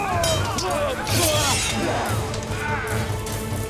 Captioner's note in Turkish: Müzik - Gerilim; Kılıç çekme sesleri